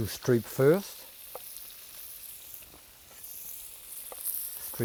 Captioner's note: pan sizzling